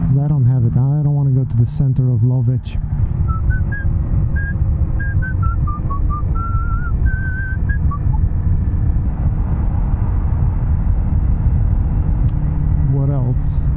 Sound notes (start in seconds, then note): 3.0 whistles